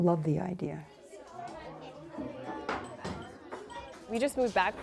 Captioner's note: children chattering